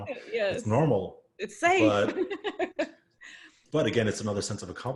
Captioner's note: laughs